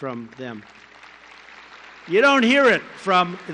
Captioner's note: applause